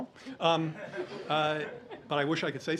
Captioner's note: laughter